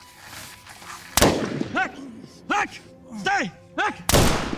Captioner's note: gunshots banging